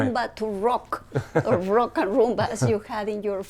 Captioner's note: laughs